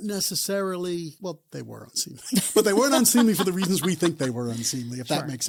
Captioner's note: both laugh